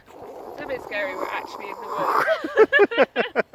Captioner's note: evil dead noises